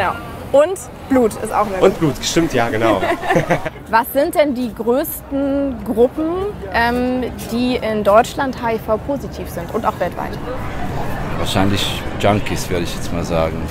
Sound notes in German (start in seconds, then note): 2.4 Beide lachen